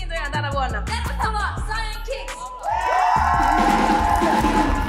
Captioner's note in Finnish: Suosionosoituksia yleisöstä